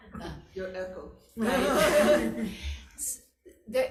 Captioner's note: all laughing